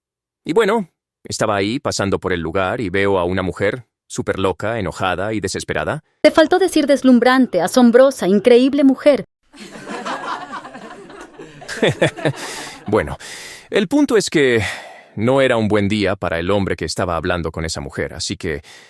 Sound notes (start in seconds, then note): 9.5 audience laughs; 12.4 jammer laughs